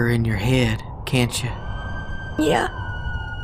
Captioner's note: distant screaming